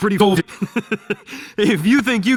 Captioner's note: chuckling